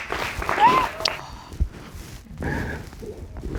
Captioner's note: sobbing